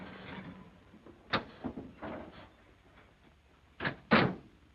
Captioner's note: car doors click; car doors thud